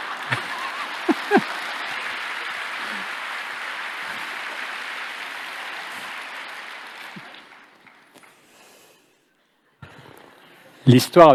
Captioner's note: applause